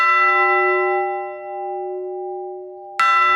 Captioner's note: loud bell tolling